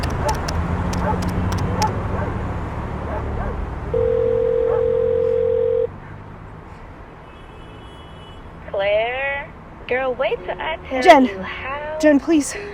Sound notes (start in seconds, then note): 0.0 phone buttons tapping; 4.0 phone ringing